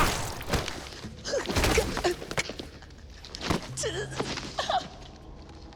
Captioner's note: sun sobbing